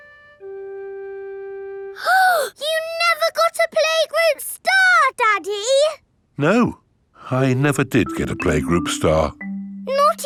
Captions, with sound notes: (GASPS) You never got a playgroup star Daddy? No. I never did get a playgroup star.